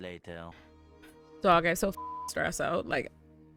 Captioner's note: beep